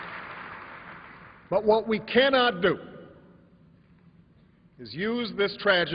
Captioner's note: applause